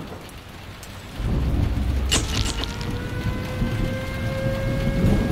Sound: rain pattering, thunder

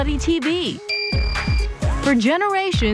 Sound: bell dings

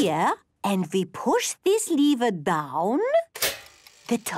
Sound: clicks

